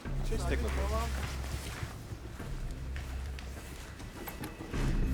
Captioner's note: speaking a foreign language